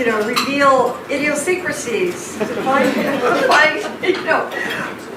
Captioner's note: laughs